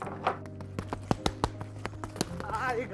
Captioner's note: mitts boxing